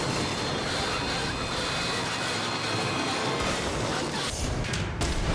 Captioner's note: edgy dramatic music; suspenseful music; car skidding; screen exploding